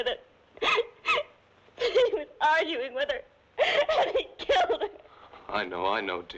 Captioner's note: sobbing